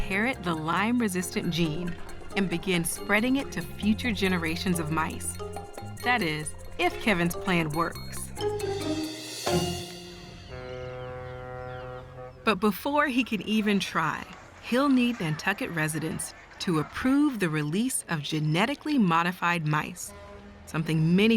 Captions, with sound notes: will inherit the Lyme-resistant gene and begin spreading it to future generations of mice. That is, if Kevin's plan works. (ship horn sounds) But before he can even try, he'll need Nantucket residents to approve the release of genetically modified mice,